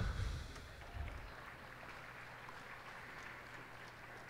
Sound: cheers and applause

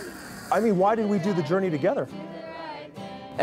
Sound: indistinct chatter

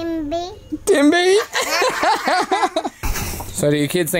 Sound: everyone laughs

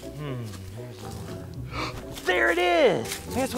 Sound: gasping

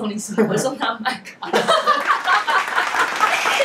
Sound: laughing

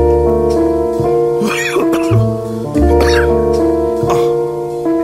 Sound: man coughs

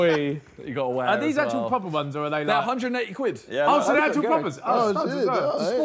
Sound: group chattering

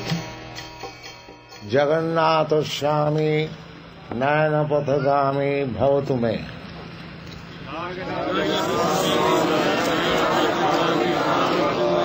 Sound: crowd repeats

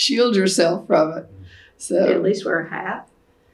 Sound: laughs

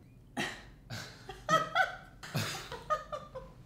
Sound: laughing

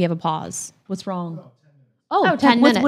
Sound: man murmurs

